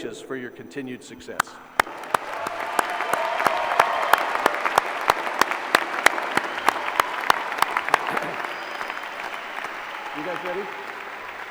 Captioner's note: applause